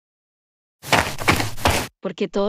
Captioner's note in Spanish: FX - Footsteps - On Multiple Dirt - Run